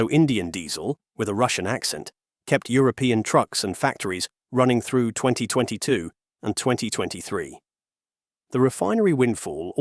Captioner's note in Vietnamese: với giọng Nga